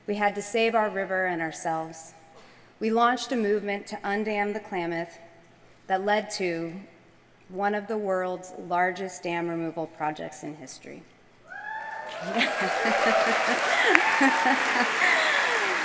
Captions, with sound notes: We had to save our river and ourselves. We launched a movement to undam the Klamath that led to one of the world's largest dam removal projects in history. [APPLAUSE]